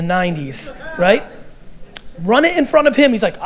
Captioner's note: audience laughter